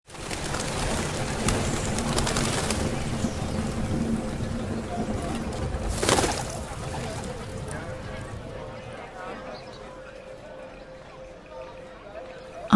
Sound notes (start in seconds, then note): 0.0 bird wings fluttering; 4.7 people chattering